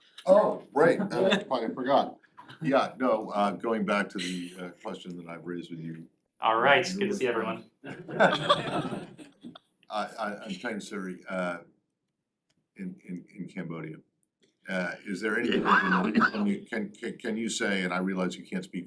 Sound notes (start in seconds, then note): 10.7 laughter